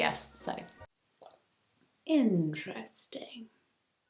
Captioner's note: sips drink